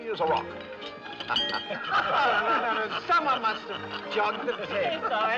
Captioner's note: todos rindo